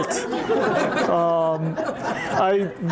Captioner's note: laughter